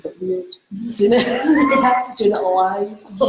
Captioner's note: laughs